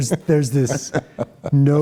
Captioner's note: laughter